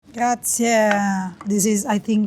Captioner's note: speaking in foreign language